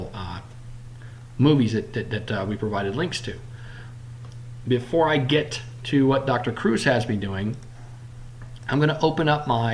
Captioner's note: click